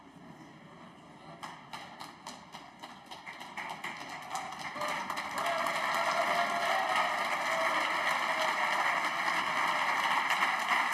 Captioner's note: applause